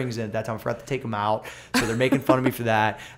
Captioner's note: laughter